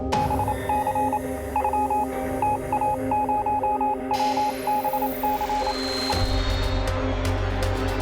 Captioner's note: beeping; intense music